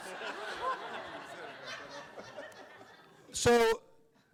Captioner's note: everyone laughs